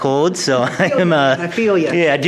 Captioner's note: chuckles